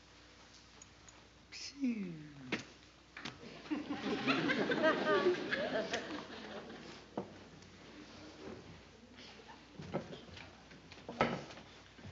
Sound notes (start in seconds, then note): 3.4 laughter